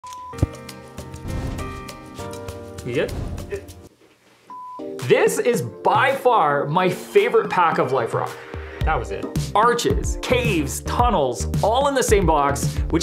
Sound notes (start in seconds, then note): 0.1 relaxing music; 1.2 air whooshing